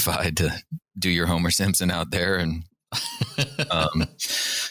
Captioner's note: laughter